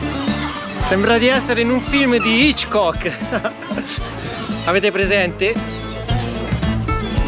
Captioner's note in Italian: risate